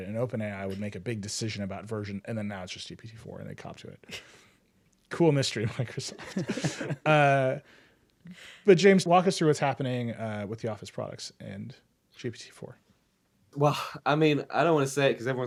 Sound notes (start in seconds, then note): 5.6 group laughter